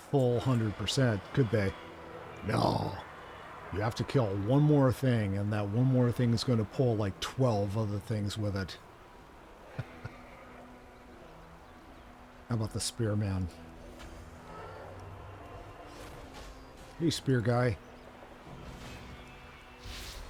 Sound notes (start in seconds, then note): 1.4 eerie music; 10.4 growling